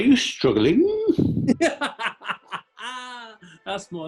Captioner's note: laughing